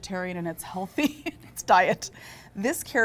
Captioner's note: laughing